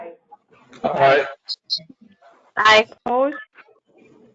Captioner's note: chorus of aye's